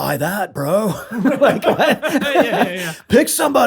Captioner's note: laughter